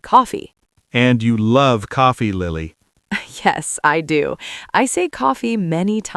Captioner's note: laughs